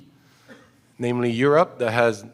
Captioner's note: cough